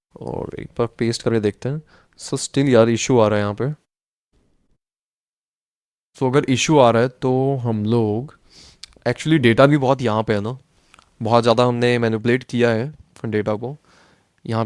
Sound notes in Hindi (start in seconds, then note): 8.6 नाक से की जाने वाली आवाज़